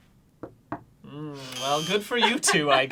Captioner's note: knocks twice; buzzing